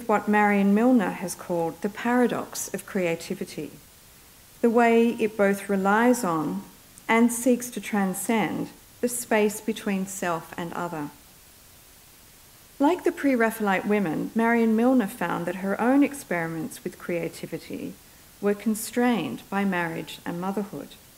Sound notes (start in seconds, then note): none